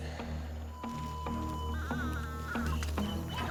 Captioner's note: metal detector beeping